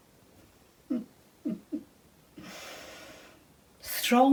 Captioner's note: laughing softly